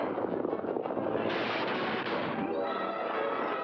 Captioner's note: dramatic music; hooves pounding; loud crack; dramatic music